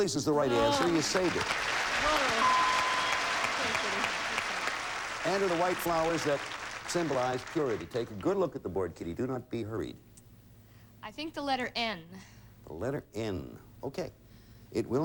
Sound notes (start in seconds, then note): 0.4 audience applauding